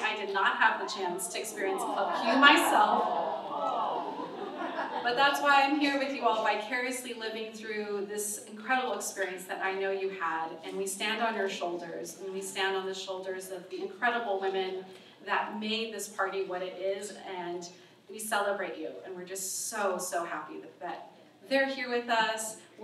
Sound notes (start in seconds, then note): 3.5 audience awwwwws